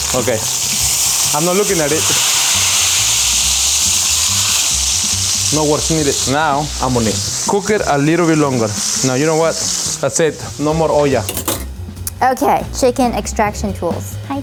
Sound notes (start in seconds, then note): 2.3 oil sizzling; 10.7 speaks in foreign language